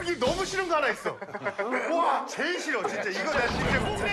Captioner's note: laughing, I feel like I know it